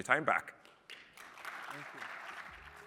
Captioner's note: applause